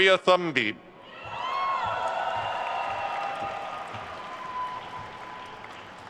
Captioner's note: attendees cheering and applauding